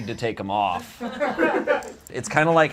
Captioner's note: audience laughs